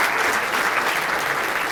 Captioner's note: applause